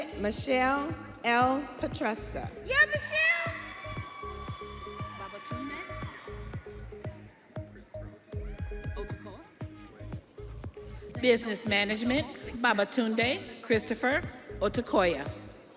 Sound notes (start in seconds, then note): 8.4 students cheering